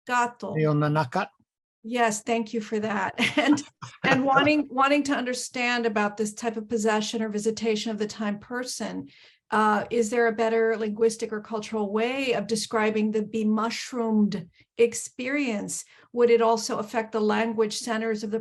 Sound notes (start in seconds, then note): 3.1 laughter